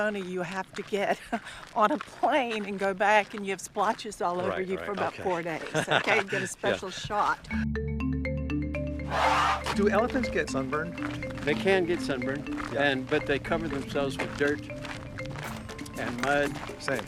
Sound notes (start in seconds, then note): 7.9 upbeat music; 9.0 elephant roars